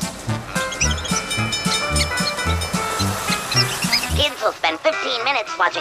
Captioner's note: bell clanging; squeaky voice